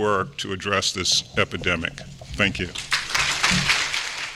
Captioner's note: applause